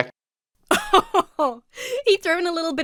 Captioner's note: laughs